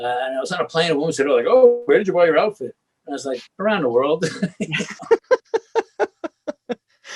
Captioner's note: laughs